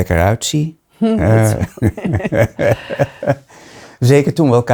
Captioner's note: laughing